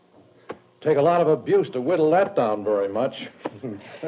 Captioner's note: laughs